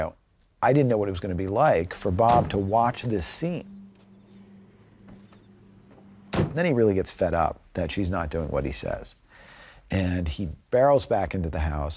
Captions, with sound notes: I didn't know what it was going to be like for Bob to watch this scene. -(INSECTS CHIRPING) -(CAR DOOR CLOSES) And then he really gets fed up that she's not doing what he says. And he barrels back into the house